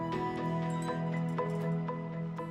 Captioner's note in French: sonnerie de téléphone portable